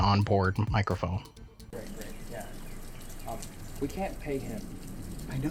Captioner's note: loud rain